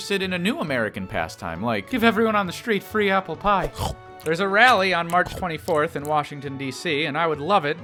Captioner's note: nom nom; chomp